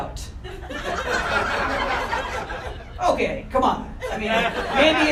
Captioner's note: audience laughter